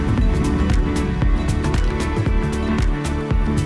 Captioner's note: air whooshing